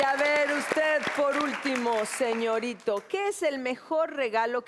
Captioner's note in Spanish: Aplausos